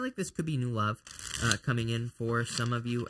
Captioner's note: ripping